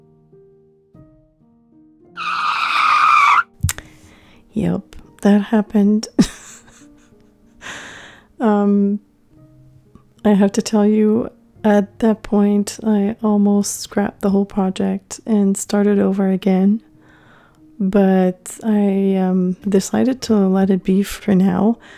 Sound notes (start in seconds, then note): 2.2 big scratchy sound; 7.4 laughing